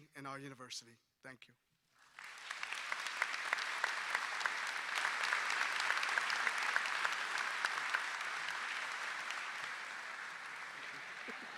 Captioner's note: applause